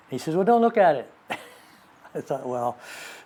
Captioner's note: laughs